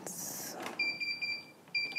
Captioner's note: beeps